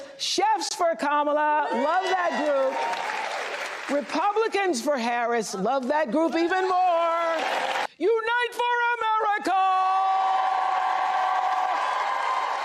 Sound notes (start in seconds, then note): 2.2 applause